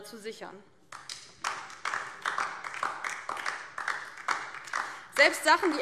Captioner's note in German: Beifall DIE LINKE